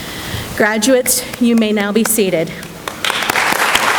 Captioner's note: applause